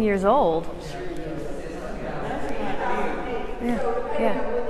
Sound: excited chatter

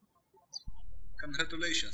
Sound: birds chirping

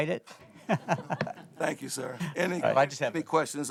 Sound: laughter

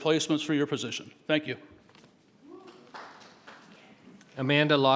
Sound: audience applauding

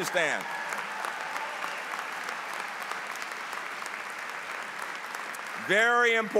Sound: applause

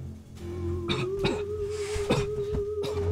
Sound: cough; coughing

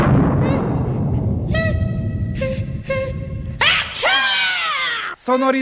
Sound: sneezes

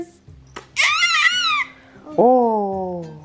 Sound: laughs; yells

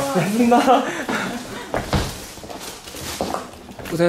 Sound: haha

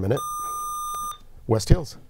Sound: buzzer

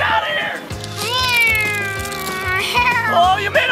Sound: making car sounds

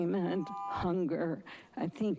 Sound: buzzing

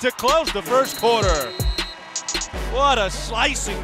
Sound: buzzer sounds

